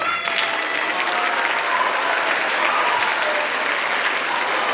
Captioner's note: audience applauds